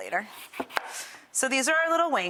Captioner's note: knife chopping